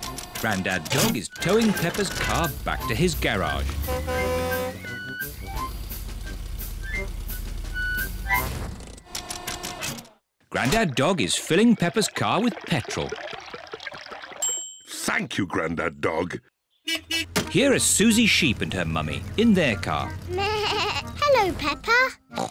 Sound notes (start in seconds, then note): 14.4 bell dings; 16.8 horn beeps; 20.8 bleats